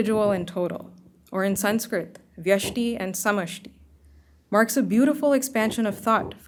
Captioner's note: hindi